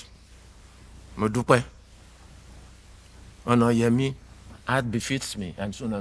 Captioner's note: speaking in foreign language